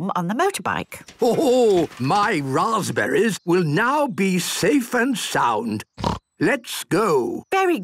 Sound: snort

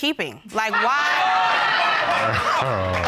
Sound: audience laughing

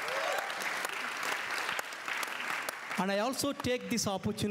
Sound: applause

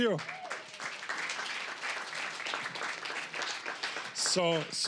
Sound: applause

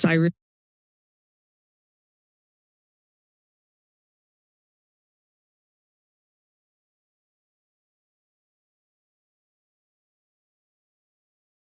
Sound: silence

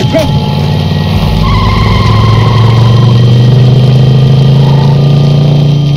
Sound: car engine revving

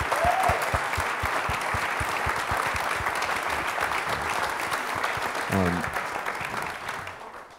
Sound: applause

